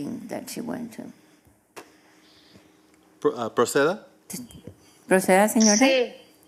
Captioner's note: speaking non-english